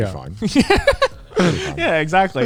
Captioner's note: laughs